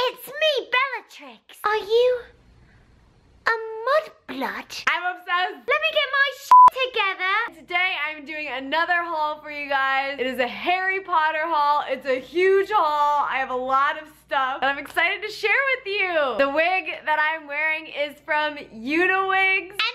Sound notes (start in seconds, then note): 6.5 beep